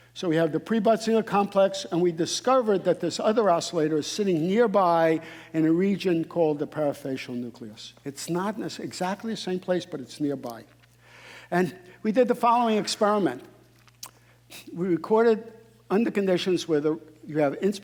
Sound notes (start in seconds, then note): none